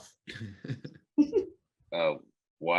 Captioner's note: actors laughing